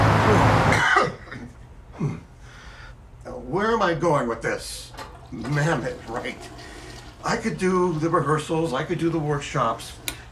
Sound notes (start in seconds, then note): 0.7 Johnathan coughs; 4.8 toilet flushes